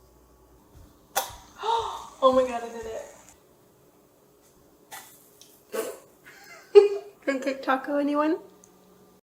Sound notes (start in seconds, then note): 1.6 gasps; 6.3 laughs